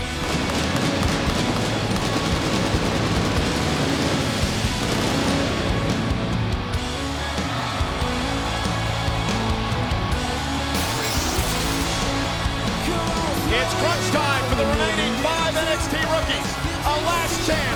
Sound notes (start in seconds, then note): 7.5 crowd cheering